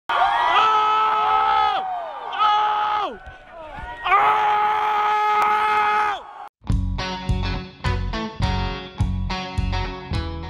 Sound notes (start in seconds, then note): 0.1 crowd cheering; 0.5 man yelling; 7.0 upbeat music